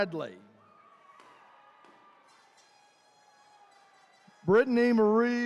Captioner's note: attendees cheering